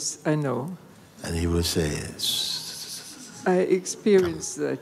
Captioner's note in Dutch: fluistert